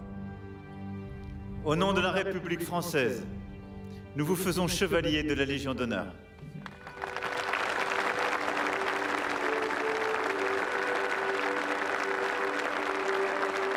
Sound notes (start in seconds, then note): 3.2 applause; 3.2 speaking french